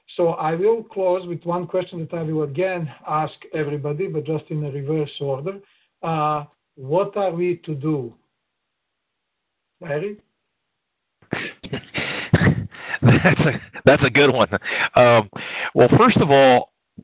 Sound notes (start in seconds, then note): 11.3 laughs